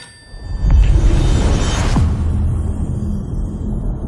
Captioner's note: dramatic sound